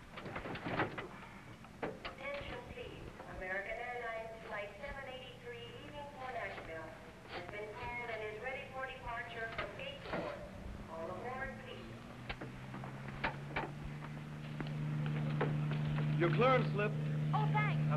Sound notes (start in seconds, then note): 7.2 sniffing